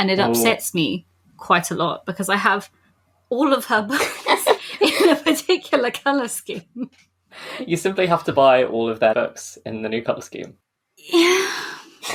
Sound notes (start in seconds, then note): 4.0 laughing; 4.0 laughs; 11.0 sighing; 11.5 laughs